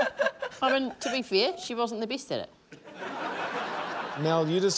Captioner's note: laughter; laughter